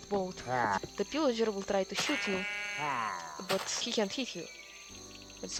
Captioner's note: huahh